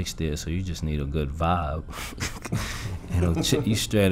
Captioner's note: laughs